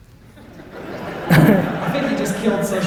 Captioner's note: audience laughter